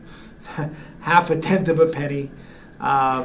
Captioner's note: chuckles